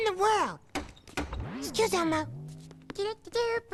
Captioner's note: knock knock